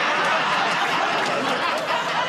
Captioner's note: laughs; laughter, buzzer